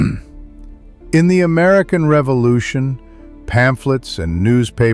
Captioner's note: clears throat